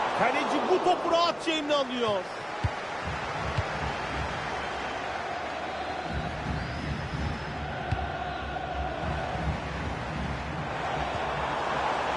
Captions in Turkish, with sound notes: Kaleci bu topu rahatça eline alıyor. [coşkulu tezahürat]